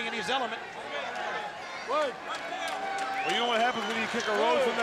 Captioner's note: crowd chatter